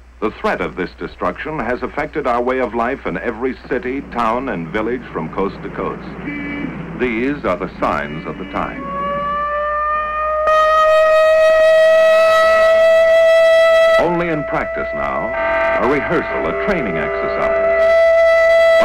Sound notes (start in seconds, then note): 9.6 air raid sirens sound